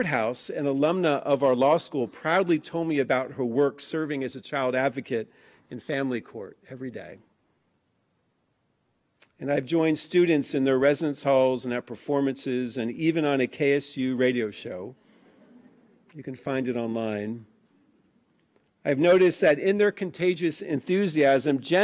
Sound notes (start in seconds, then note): 14.9 laughing